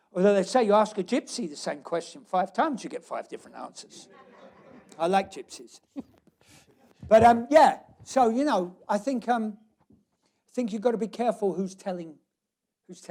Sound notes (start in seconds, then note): 3.9 laughter